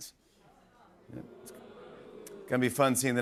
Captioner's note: audience "Oohs"